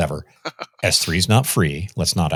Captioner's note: laughs